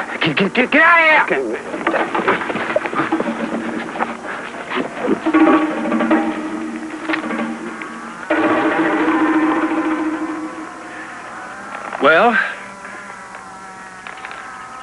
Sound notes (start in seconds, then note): 8.2 cows mooing in background